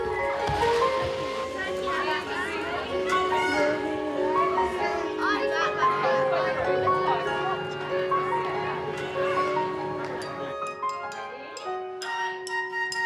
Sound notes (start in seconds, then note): 0.8 dreamy piano music; 2.8 children chatter, shout